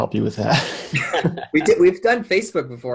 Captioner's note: men laughing